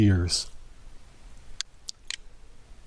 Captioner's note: PowerPoint click